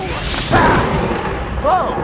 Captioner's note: lightning crash; bahhhhhhh!